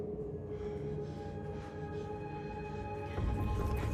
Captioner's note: Alex breathing heavily; rapid suspenseful music